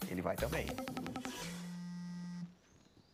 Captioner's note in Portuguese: celular continua vibrando